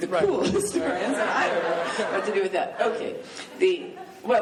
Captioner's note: laughing